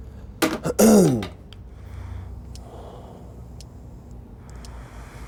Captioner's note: deep breathing